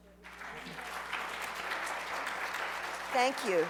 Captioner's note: applause